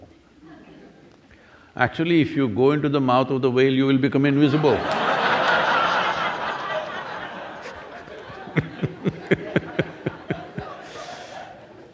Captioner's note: laughs